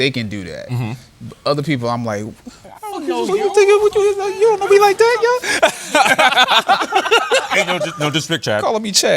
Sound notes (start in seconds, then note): 4.2 mumbling; 7.3 laughter